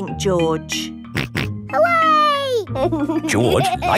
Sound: snorts and laughs

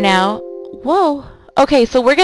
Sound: computer chiming

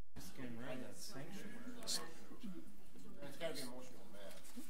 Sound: overlapping chattering

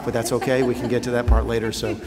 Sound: laughter

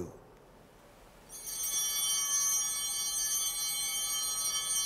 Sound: bell ringing

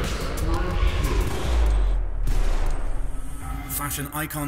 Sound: two gunshots

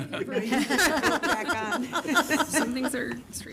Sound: laughter

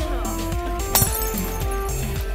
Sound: glass break sound

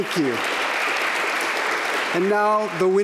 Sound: applause

